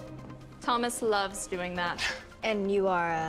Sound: none

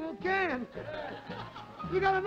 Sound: laughter

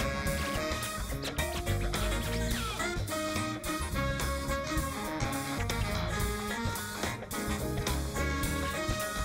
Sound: scratching

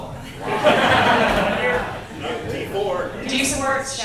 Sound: audience laughs

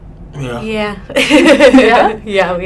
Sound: laughing

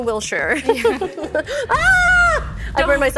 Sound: laughing

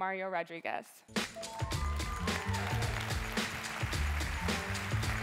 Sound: cheering, music playing

